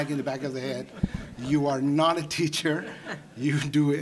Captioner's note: audience laughing